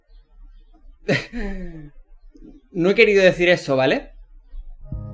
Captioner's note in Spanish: risa nerviosa